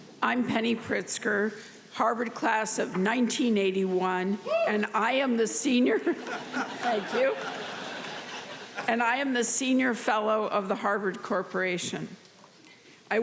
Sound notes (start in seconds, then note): 6.1 audience laughing